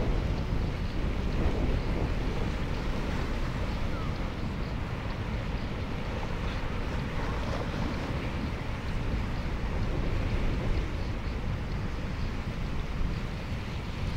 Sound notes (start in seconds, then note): 4.0 wind blowing